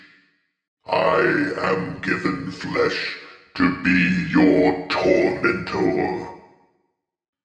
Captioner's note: deep, Rumbly Voice